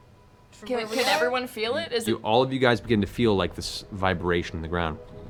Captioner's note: none